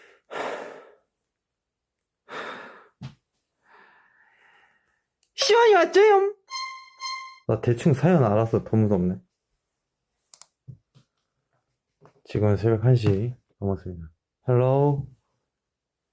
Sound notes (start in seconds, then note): 0.0 inhalation; 0.2 sigh 2; 2.2 sigh 3